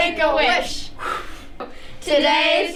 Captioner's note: blowing